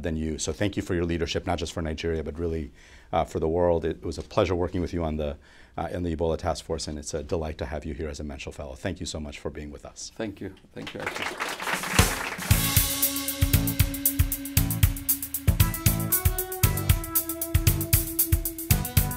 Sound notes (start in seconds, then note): 10.7 applause